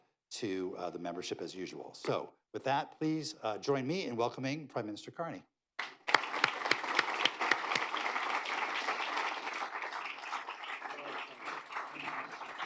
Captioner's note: applause